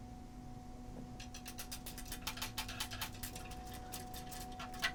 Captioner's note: tapping easel